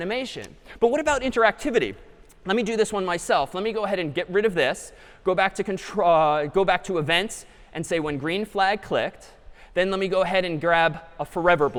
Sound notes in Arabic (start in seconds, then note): none